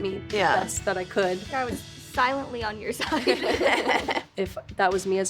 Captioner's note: all laugh